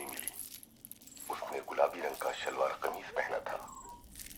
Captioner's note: radio